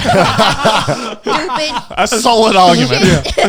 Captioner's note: everyone laughing